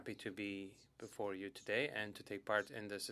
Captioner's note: speaking French